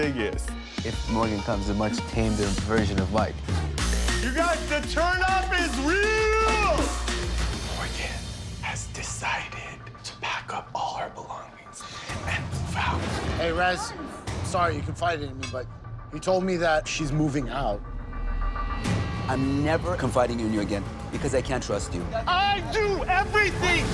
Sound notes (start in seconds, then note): 6.3 whispers